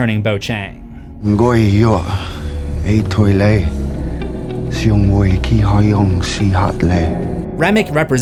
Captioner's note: speaking Chinese